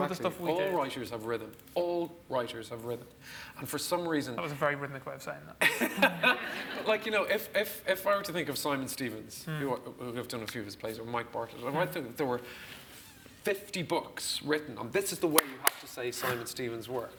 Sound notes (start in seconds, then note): 5.7 laughs